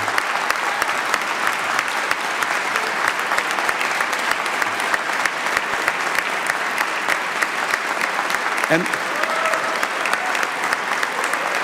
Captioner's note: applause